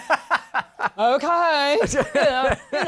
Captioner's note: laughs; laughs